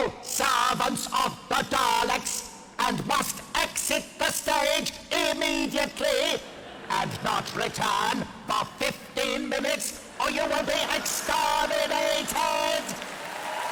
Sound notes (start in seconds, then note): 6.0 audience Laughter; 13.5 more applause